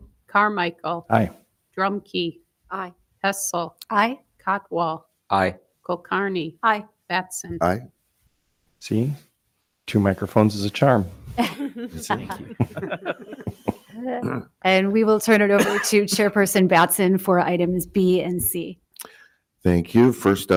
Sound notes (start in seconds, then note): 11.4 attendees laughing; 14.3 laughs